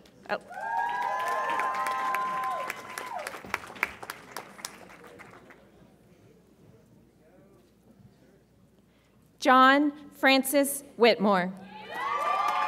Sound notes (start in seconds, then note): 0.4 audience applauds and cheers; 11.8 audience applauds and cheers